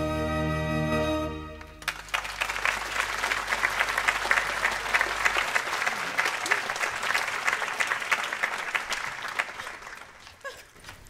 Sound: applause

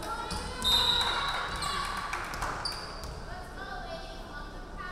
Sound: referee whistling

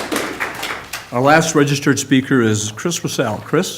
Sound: applause

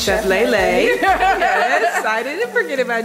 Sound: laughing

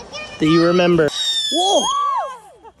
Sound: firework goes off

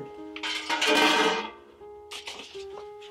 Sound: bucket clanging

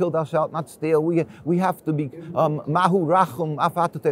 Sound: speaks foreign language

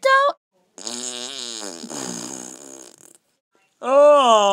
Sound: DIY Fart Noise

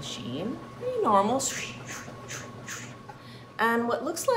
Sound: imitating washing machine

